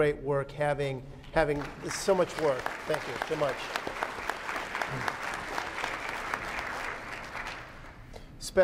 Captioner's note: applause